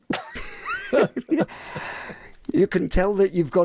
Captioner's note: laughing